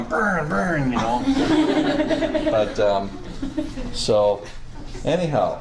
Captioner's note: students laughing